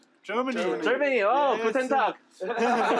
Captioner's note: in German